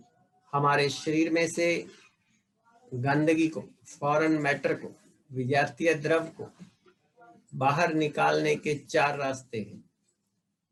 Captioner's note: breathing